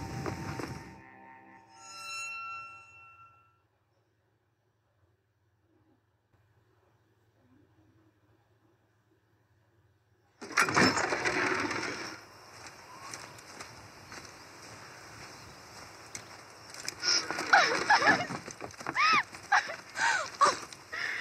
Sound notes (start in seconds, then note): 0.5 creepy music; 10.4 screak of large door; 12.0 sounds of footsteps and wind; 17.0 cry of joy and hug